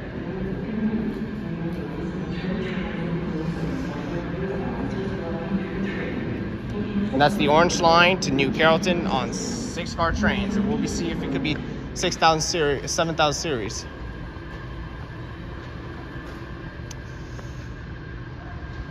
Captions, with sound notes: [announcements speaking] And that's the Orange Line to "New Carrollton" on 6-car trains. And we'll see if it could be 7000 Series.